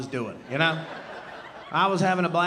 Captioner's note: audience laughing